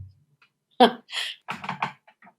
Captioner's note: laughs